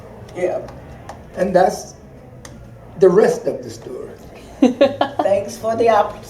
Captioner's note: laughter